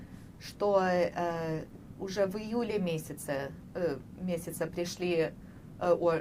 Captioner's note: none